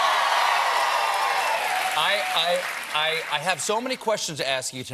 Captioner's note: cheers and applause